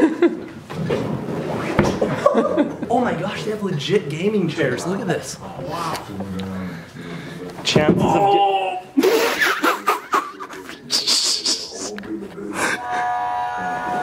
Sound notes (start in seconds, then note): 0.2 laughs; 8.0 groans in pain; 9.8 laughs